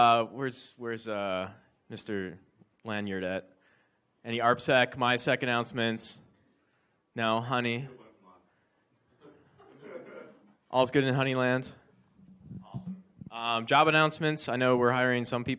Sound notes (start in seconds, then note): 8.1 speaking away from mic